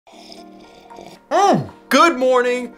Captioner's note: slurping